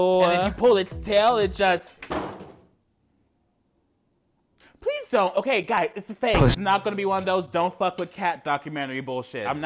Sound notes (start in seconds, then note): 2.2 loud thud